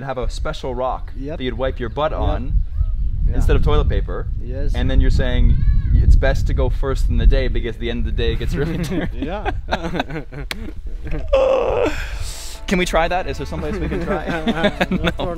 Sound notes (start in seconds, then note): 10.7 laughing